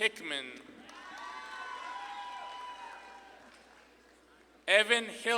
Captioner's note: audience claps and cheers